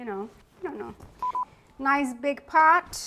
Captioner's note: bar tone beeping